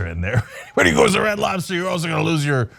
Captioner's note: laugh